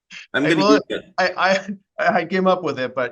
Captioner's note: faintly speaking